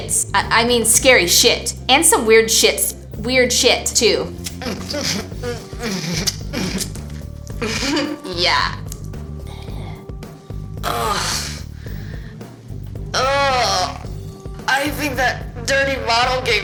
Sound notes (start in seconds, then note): 4.4 slucking sounds; 5.8 lips smacking; 10.4 groaning; 13.1 intensified groaning